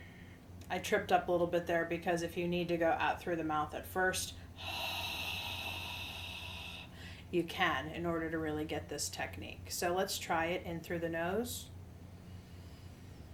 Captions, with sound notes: I tripped up a little bit there because if you need to go out through the mouth at first (exhales forcefully) you can in order to really get this technique. So let's try it, in through the nose.